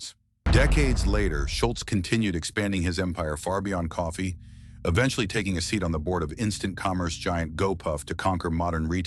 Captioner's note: SFX: dramatic heavy boom